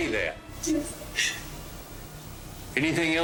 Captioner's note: sobbing